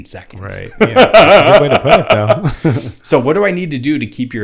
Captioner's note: laughs loudly